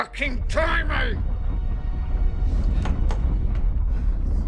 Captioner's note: house trembling